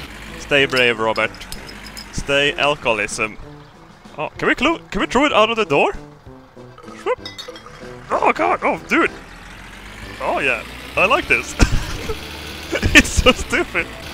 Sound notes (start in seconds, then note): 12.6 laughs